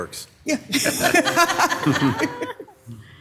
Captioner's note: laughs